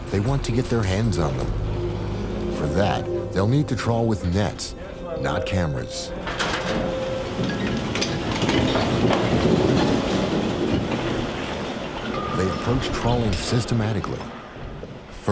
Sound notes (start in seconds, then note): 6.5 machinery clunking